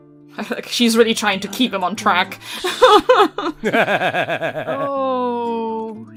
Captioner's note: laughs; laughter